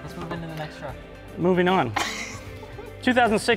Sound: laughing

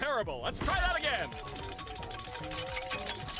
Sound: wheel chimes

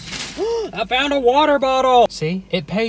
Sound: gasping

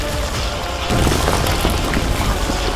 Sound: lightning striking

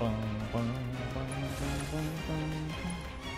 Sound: humming

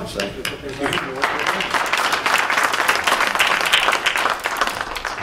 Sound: applause

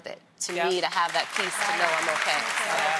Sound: applause

